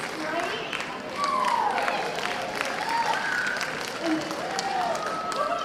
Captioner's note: cheers and applause